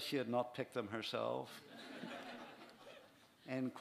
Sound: laughter

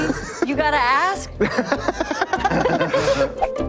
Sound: laughter

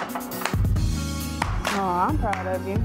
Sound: clapping

